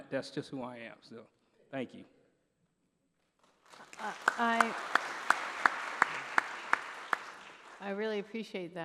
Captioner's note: applause